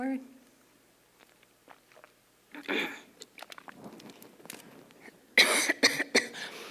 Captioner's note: cough